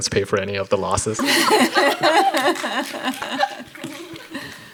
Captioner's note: panel laughs